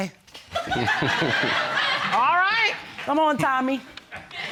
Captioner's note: audience laughing